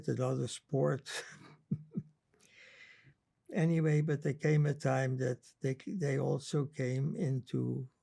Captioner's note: laughing